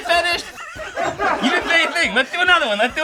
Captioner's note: all laugh